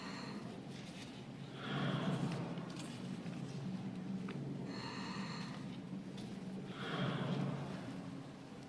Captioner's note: slow breathing